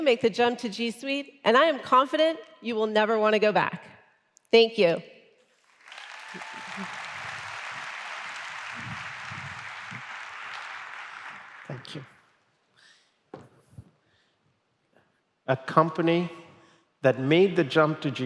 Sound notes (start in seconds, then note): 5.6 applause